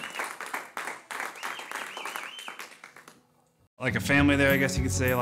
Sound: applause

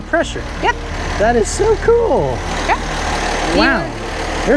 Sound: truck engine roaring

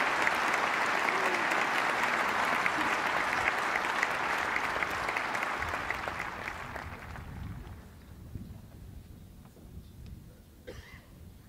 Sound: applause

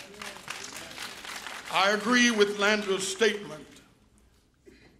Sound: applause

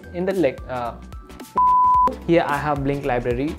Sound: beep

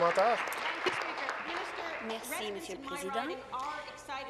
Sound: applause

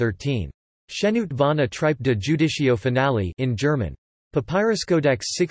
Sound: in German

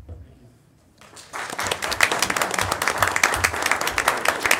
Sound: applauding

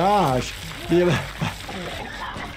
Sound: laughs

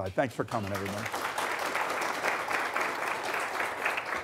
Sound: applause

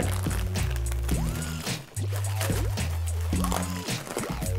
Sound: noodles crunch

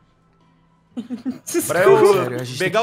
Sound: laughs

